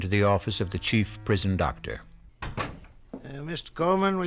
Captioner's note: door closes